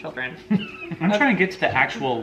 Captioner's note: laughing quietly